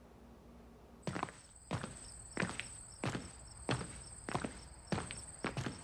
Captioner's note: crickets chirping